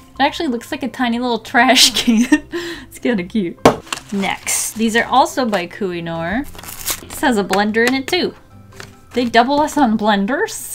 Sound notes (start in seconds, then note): 2.2 laughs; 3.5 smack